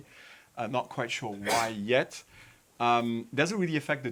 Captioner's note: attendee sneezes